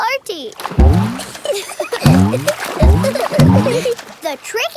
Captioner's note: giggling